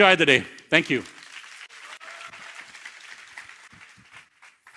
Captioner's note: cheers, applause